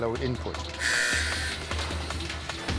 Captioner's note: buzzer